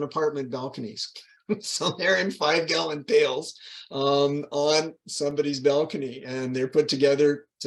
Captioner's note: laughing